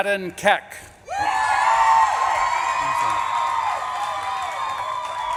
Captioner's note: audience claps and cheers